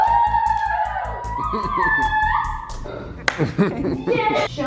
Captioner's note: family cheers and claps; chuckles; hands clap